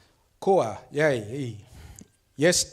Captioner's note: speaks foreign language